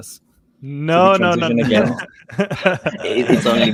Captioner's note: laughs